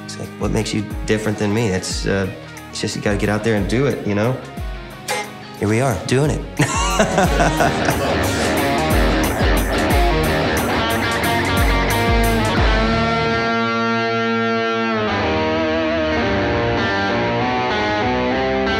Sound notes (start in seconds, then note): 6.6 laughing; 9.6 rock music